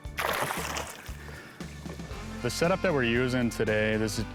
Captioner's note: water splashing